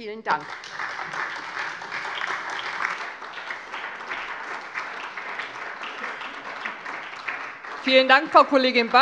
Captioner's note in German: Beifall SPD und vereinzelt DIE LINKE